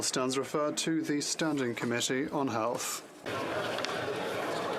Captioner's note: some Applause